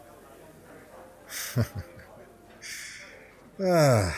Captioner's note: laughs